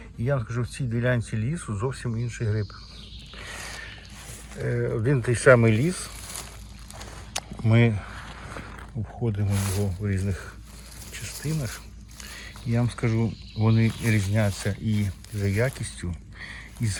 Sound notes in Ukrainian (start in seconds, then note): 9.2 сопіння